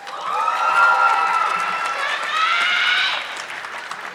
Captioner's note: audience clapping